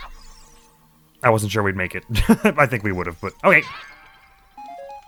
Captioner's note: laughs